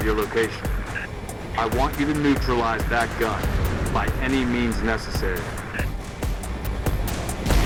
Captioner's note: radio